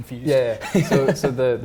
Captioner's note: laughing